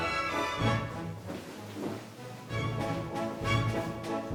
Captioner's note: footsteps